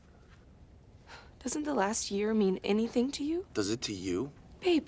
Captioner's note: sighs